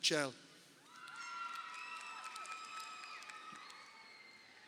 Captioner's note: crowd cheering